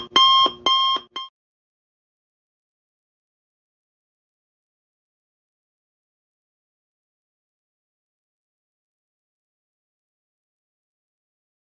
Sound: silent

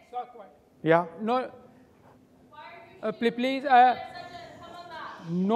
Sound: audience member shouting

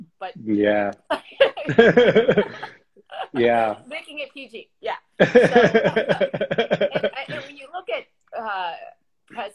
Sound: laughs

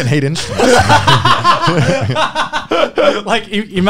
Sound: laughing

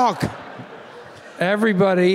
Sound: audience laughing

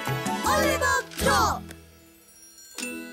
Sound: squeaking

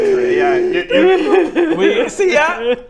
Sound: wails

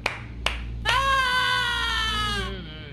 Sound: scream

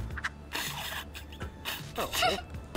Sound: snickering

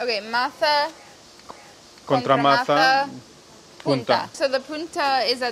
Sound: speaking in foreign language

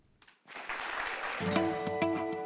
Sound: applause

